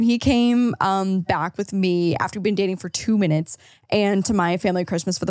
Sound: gasps

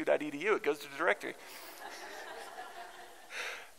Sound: laughter

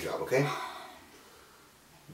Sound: sighs

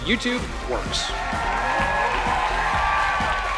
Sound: cheers and applause

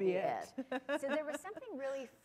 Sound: laughter

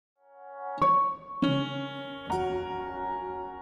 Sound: chiming bells

